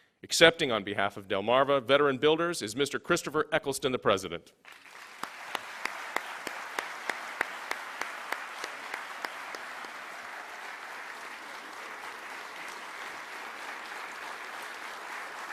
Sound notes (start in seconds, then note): 4.8 applause